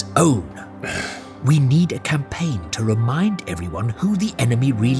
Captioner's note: frustrated sigh